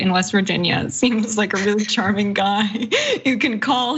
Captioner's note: laugh